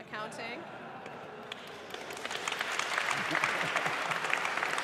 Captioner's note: audience applauding